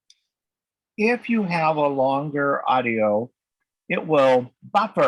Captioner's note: bold Voice